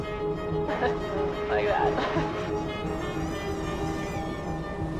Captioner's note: laughs